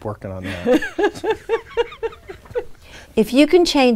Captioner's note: laughing